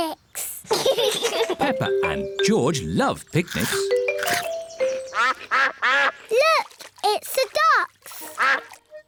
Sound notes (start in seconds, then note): 0.7 both laugh; 5.1 quacking